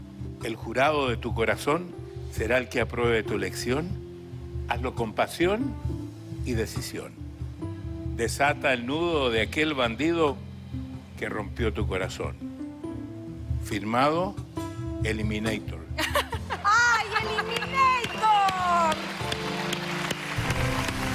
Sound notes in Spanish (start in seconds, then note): 16.0 Risas